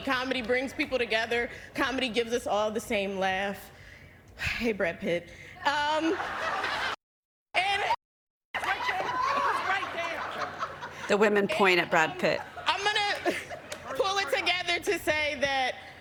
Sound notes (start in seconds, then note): 5.9 laughter